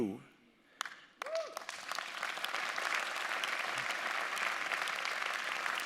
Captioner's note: audience applauding